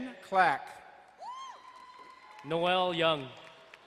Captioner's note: crowd cheering and applauding